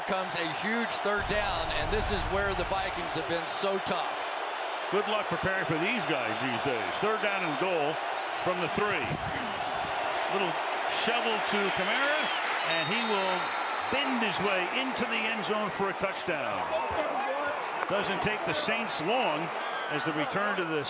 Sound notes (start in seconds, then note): 17.4 players cheering